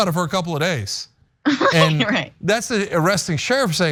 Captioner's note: laugh